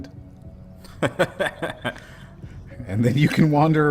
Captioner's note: laughs